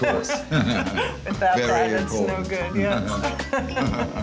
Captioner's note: both laugh